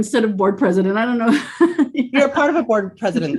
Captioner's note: laughs